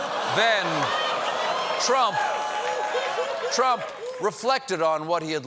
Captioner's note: laughter